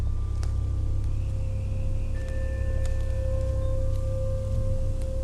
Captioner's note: insects chirping